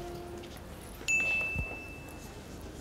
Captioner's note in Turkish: Mesaj Sesi